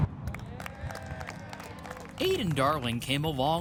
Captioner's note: crowd cheers